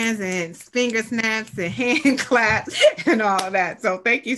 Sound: chuckles

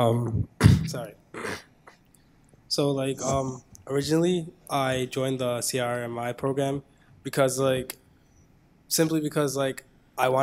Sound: coughs; clears throat

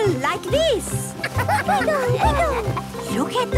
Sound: laughter

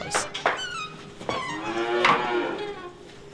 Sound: mooing

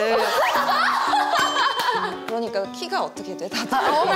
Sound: cracking up

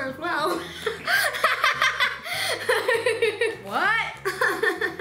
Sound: laughs

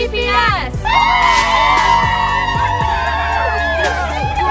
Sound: kids cheering

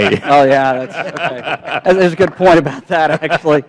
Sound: laughter

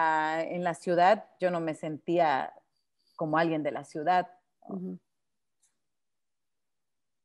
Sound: speaking Spanish

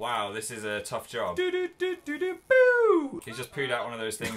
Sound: hums the first seven notes of the theme

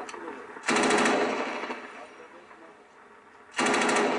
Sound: gun fires

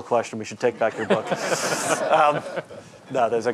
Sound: audience laughing

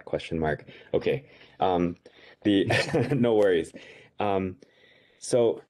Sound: chuckles

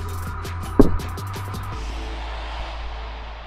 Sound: thud

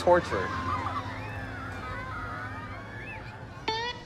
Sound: people cheering, laughter

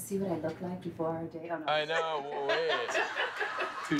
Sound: laughter

